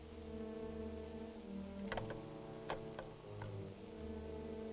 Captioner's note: suspenseful orchestral music; phone clicks